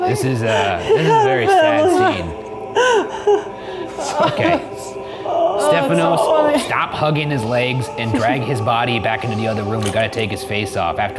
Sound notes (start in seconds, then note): 2.2 laughing